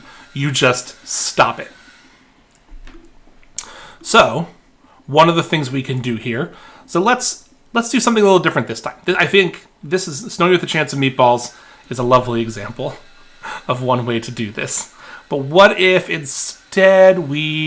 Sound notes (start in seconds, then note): 12.8 chuckling